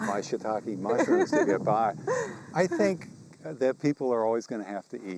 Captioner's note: chuckles